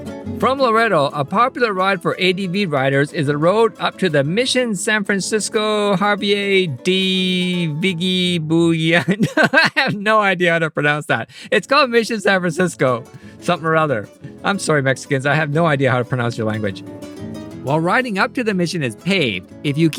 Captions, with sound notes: From Loreto, a popular ride for ADV riders is a road up to the Misión San Francisco Javier de Viggé-Biaundó... [Laughs] I have no idea how to pronounce that. It's called Misión San Francisco...something or other. I'm sorry Mexicans, I have no idea how to pronounce your language. While riding up to the mission is paved,